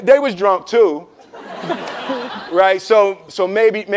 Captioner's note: laughing